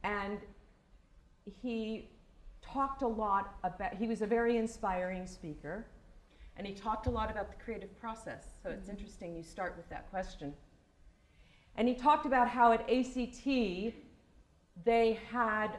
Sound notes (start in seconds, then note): none